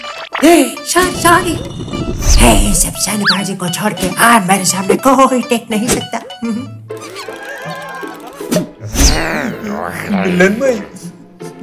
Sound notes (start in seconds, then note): 6.4 chuckle; 9.4 whining